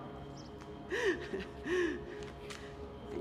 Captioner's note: chuckles